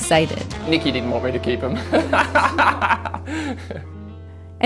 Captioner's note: laughs